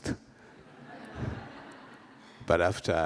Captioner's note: laughter